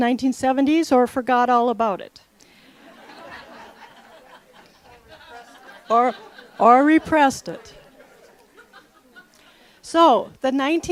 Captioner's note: laughter